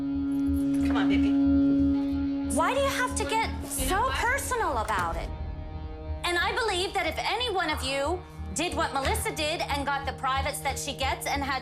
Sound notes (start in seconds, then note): none